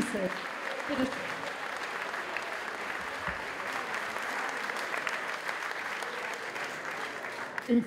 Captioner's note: applause